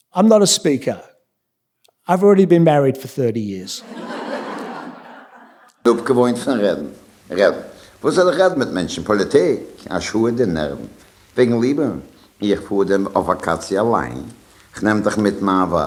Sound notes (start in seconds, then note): 5.9 speaking yiddish